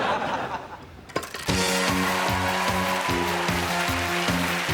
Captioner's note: applause and whoops